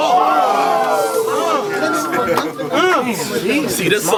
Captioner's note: crowd Reaction